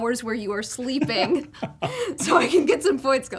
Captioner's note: laughter